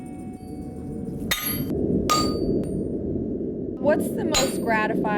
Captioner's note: metal banging